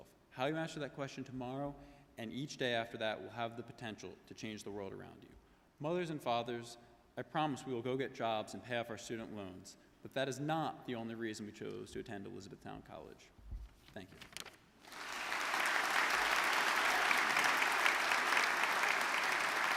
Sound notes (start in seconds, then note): 14.8 audience clapping